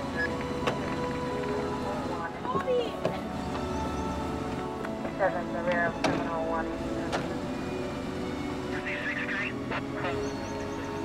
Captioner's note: police radio